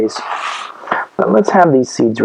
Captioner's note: scrapes table